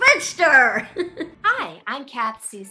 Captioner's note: giggles